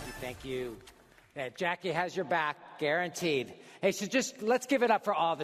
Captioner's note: applause